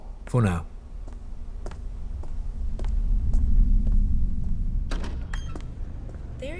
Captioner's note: Yoba’s footsteps moving down a stone corridor. A door opens into an atrium